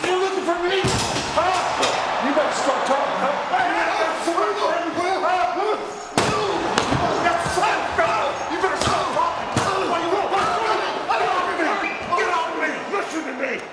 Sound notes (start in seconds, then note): 3.6 overlapping chatter; 6.1 body thudding; 6.1 overlapping yelling